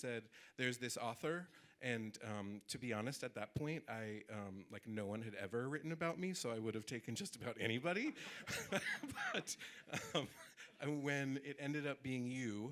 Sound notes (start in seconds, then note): 8.1 audience laughing